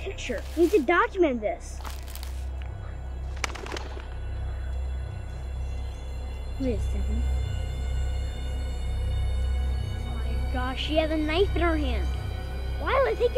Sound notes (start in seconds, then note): 1.6 leaves crunching; 3.2 bird wings flapping; 8.1 music intensifying